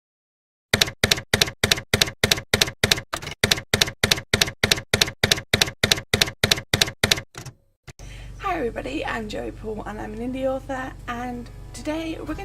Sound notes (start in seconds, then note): 0.7 typewriter keys clacking